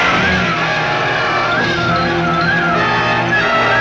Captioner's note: car engine revving; dramatic music